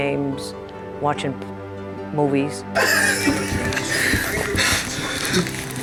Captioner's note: laughing